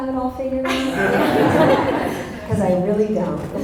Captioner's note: audience laughter